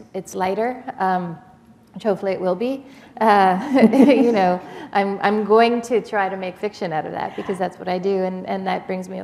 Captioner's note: chuckle